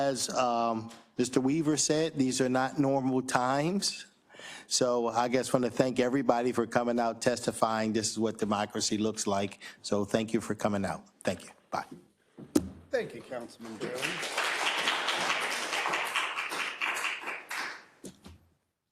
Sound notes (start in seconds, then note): 13.6 attendees applauding